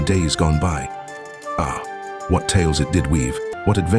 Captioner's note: narrator continues